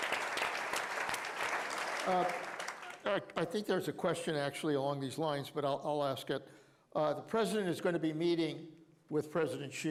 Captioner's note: applause